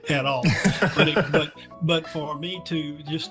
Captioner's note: laughing